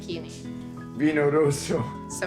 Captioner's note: Dario speaking Italian